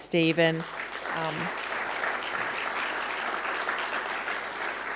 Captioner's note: audience clapping